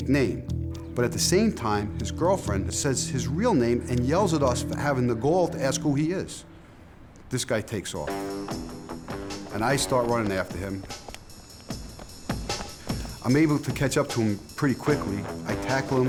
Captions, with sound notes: But, at the same time, his girlfriend says his real name and yells at us for having the gall to ask who he is. This guy takes off. -And I start running after him. -[hurried steps] I'm able to catch up to him pretty quickly. I tackle him.